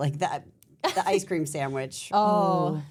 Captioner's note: person on Left laughs